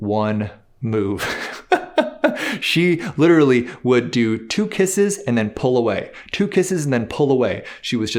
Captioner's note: laughs